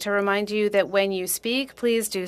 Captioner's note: speaking French